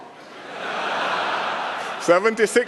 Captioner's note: laughter